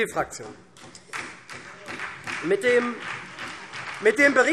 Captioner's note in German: Beifall SPD